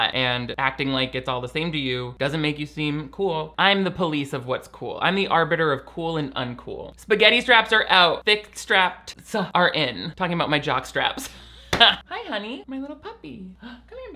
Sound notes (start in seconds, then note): 11.6 laughing